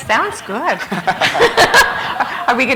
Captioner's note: laughter